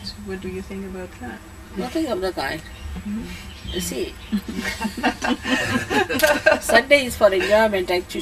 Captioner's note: laughter